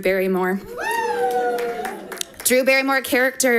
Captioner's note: audience applauding